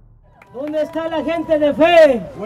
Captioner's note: in Spanish